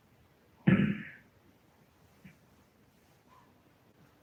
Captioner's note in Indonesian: berdehem